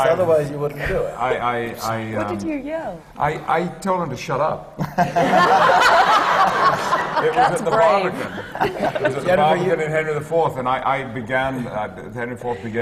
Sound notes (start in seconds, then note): 3.2 laughter